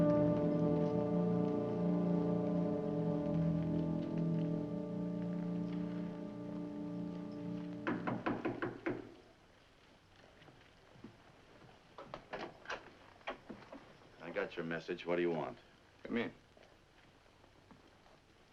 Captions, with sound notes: (door knocking) (door opens) - I got your message, what do you want? - Come in.